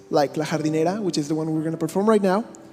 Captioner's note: speaking in a foreign language